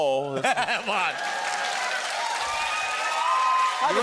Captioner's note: cheers and applause